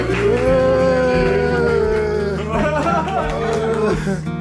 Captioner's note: cheers and clapping